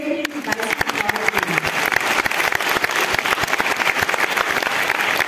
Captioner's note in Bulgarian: аплодисменти